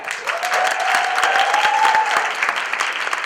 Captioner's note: applause